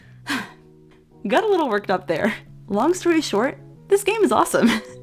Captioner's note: deep breath